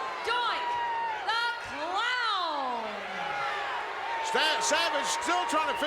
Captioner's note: crowd boos